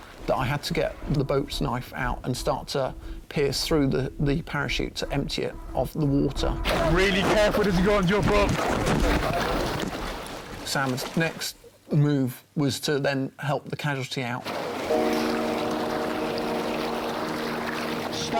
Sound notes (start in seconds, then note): 9.3 radio chattering; 9.3 water splashing; 14.4 water splashing; 14.8 slow music